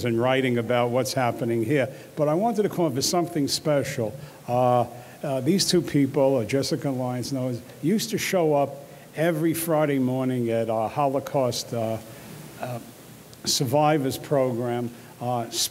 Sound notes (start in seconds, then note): none